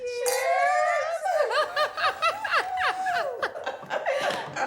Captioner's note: laughing